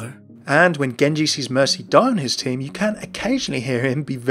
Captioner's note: voiceover